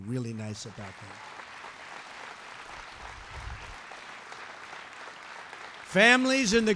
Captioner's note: applause